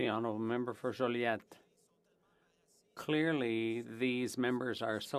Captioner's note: speaking french